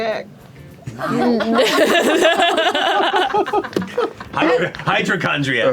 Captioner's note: laughter